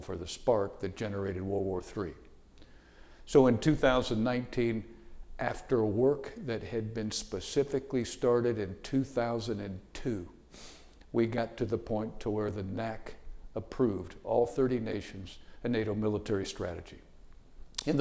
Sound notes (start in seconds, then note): none